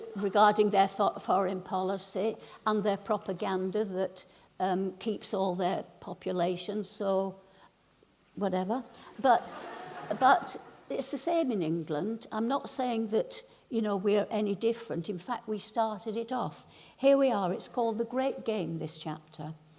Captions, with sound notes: regarding their foreign policy and their propaganda that keeps all their population. So whatever. [laughing] But it's the same in England. I'm not saying that we're any different, in fact, we started it off. Here we are, it's called the great game, this chapter.